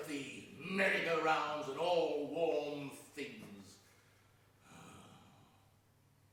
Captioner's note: groaning